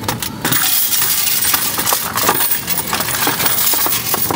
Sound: coins rattling

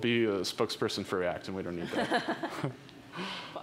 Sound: audience member laughs

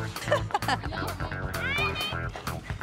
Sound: laughing

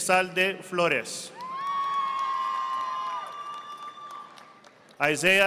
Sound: audience applauding

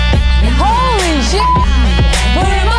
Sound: beep

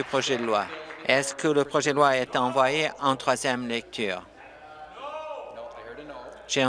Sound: applause

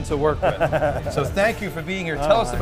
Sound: laughs

